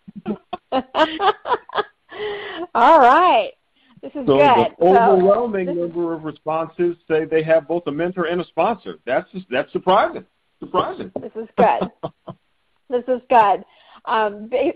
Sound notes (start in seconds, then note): 9.9 chuckling